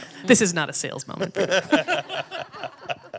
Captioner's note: laughing; laughs